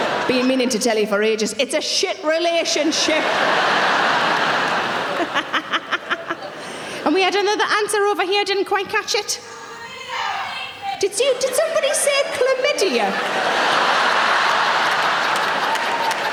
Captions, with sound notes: Been meaning to tell you for ages. It's a shit relationship. (audience laughing) (Sarah laughs) And we had another answer over here. Didn't quite catch it. (audience members shouting) Did somebody say chlamydia? (audience laughing)